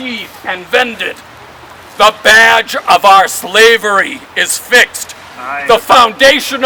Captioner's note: crowd